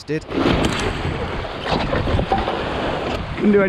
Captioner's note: waves splashing